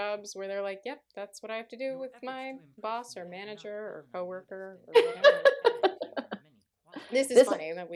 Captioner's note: laughter